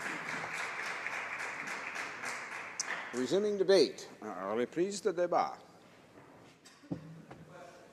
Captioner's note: applause